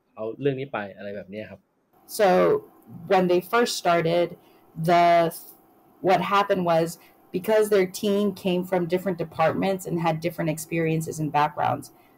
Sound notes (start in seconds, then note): 2.0 speaks Thai